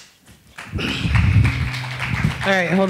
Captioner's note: attendees applauding